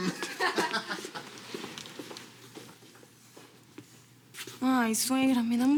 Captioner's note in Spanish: risas